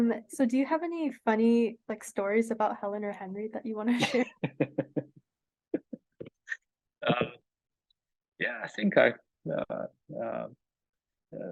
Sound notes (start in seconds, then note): 6.8 laughs